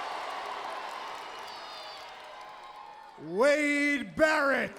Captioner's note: crowd cheering